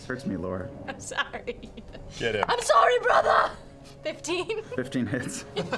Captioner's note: laughing